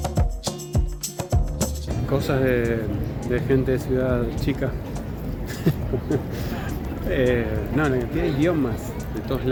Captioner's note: laughs